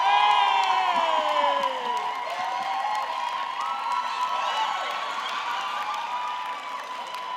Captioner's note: audience cheering; audience clapping